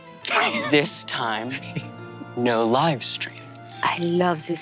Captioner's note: Brennan laughs